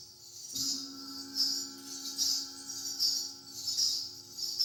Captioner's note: gong chiming; finger cymbals clinking